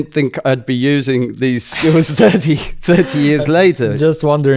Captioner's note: laughs